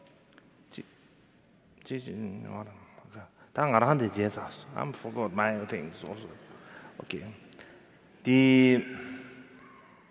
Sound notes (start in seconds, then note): 2.0 speaking in foreign language